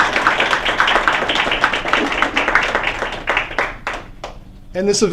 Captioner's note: applause